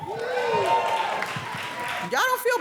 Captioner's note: audience cheering